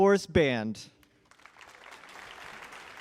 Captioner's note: applause